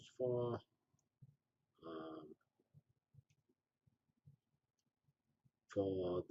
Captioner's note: pause